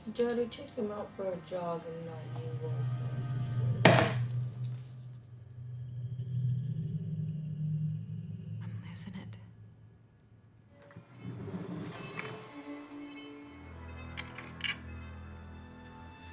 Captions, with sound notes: Did Daddy take him out for a jog and not you? (can thumping) (eerie music) I'm losin' it. (mysterious string music)